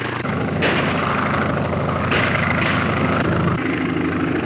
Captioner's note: airplane engine roaring; gunshots; airplane engine roaring